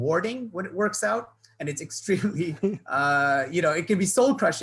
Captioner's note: laughs